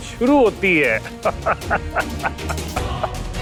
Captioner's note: laughing